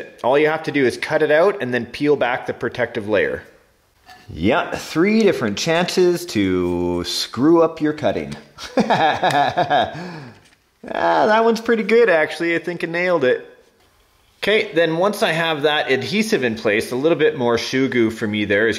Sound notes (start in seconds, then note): 8.6 laughs